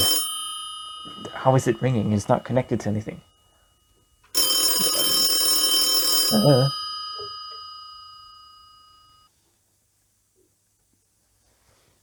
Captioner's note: phone Rings